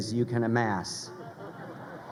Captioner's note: crowd laughing